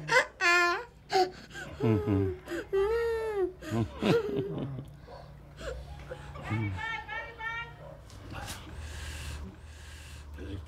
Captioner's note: boy Crying